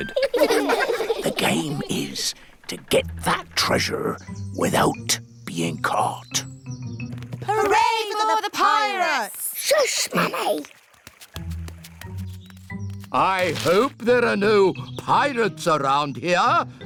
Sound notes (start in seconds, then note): 0.0 all giggle; 1.4 whispers